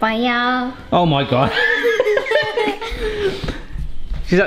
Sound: laughs

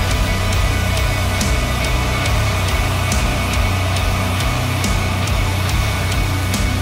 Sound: distant Banshee Scream

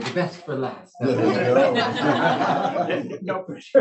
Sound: laughing

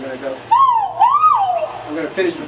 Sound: pheasant calling

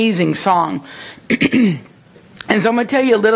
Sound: clears throat

